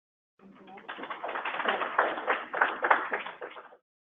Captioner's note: audience applause